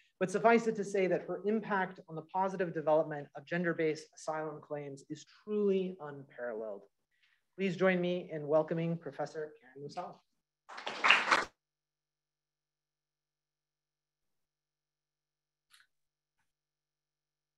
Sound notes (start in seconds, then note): 10.7 applause